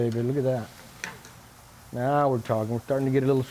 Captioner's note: sizzling